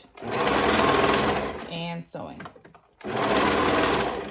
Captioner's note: machine whirring